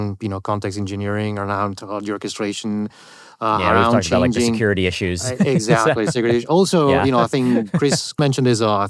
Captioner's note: laughter